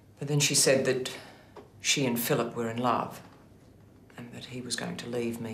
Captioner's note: none